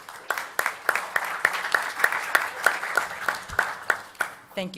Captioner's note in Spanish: Aplausos